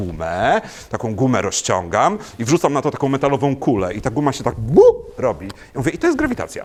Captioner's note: boop